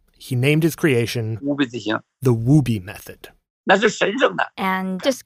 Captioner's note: speaking Mandarin